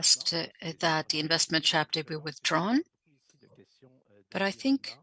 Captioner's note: speaking French